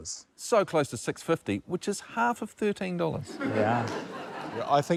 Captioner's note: laughter